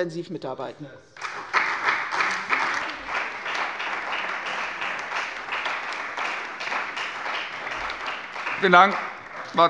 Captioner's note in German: Beifall bei der CDU und dem BÜNDNIS 90/DIE GRÜNEN